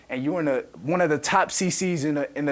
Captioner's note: none